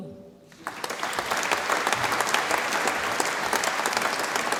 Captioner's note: audience applauds